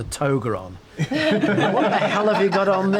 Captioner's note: group laughs